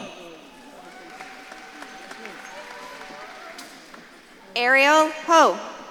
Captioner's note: audience claps and cheers